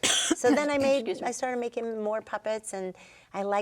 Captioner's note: coughing; coughing